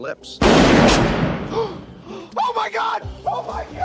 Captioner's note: bang; both gasp